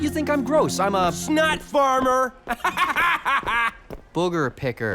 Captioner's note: laughs